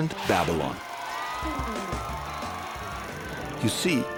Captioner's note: crowd cheering